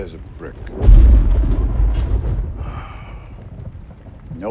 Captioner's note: thunderclap; sighs